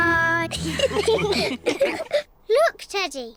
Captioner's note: all laughing